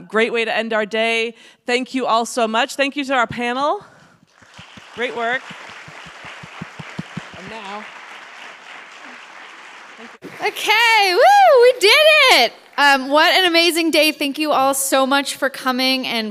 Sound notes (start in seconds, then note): 4.3 audience applauds; 6.4 audience claps